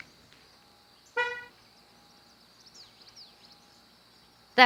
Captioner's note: loud beep